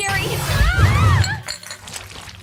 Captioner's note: screaming